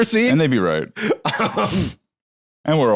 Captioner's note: laughs